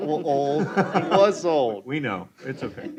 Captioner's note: chuckling